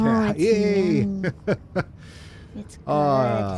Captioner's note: laughter